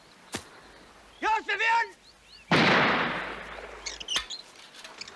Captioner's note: gunshot